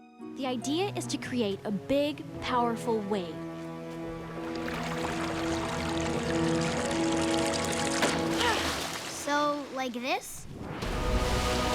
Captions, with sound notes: The idea is to create a big, powerful wave. [sighing] So like this?